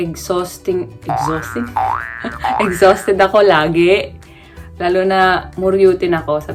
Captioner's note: laugh